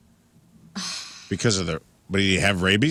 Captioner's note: none